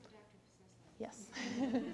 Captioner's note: laughter